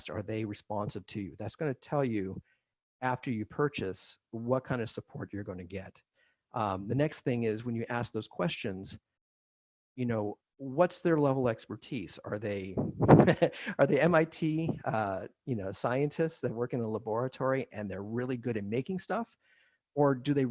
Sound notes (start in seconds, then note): 12.9 laughs